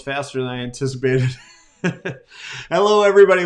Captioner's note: laughing